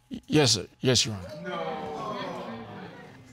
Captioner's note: audience exclaims